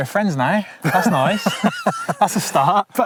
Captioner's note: both laughing